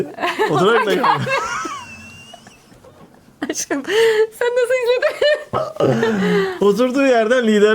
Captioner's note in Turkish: kahkaha